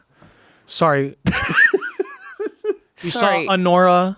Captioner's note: laughs